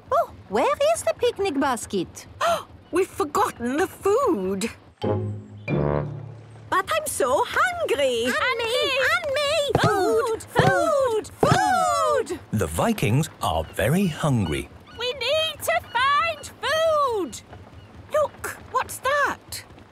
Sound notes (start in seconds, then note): 2.5 gasps; 8.6 calling out in turn